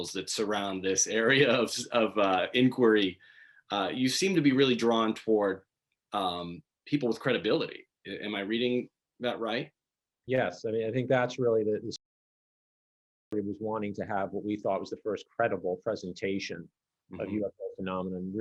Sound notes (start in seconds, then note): 12.4 audio distorts